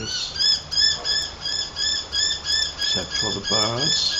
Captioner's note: bird calling